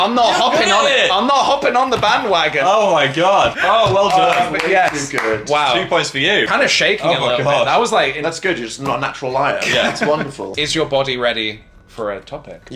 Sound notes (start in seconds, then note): 3.7 clapping